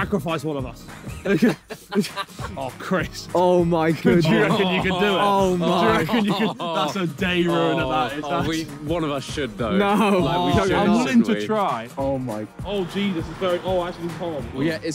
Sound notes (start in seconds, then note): 1.2 all laughing; 9.9 indistinct chattering